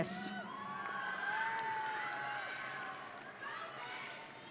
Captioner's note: audience cheering